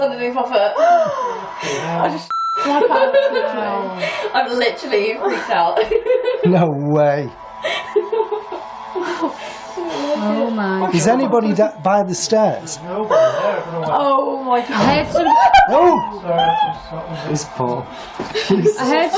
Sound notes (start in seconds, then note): 0.8 gasping; 2.3 beep; 5.2 laughing; 14.7 banging